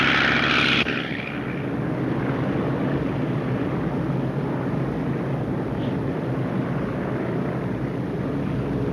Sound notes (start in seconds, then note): 2.1 engines droning